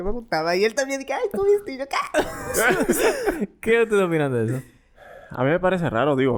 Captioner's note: laughs